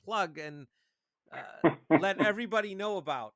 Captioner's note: chuckles